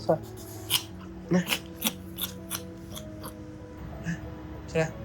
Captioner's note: Dou-Dou making suffering noises